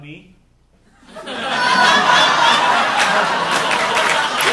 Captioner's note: audience laughing